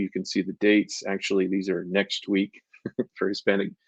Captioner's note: chuckles